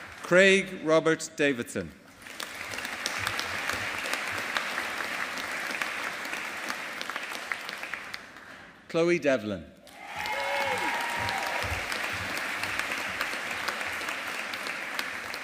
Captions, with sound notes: Craig Robert Davidson. (AUDIENCE APPLAUDING) Chloe Devlin. (AUDIENCE APPLAUDING)